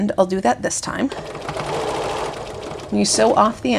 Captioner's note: sewing machine whirring